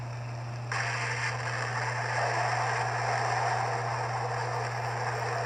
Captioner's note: ship Explodes